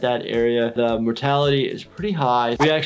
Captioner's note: none